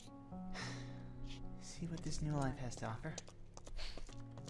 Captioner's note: sigh